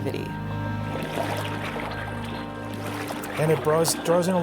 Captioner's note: splashing